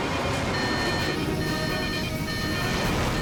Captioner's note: alarm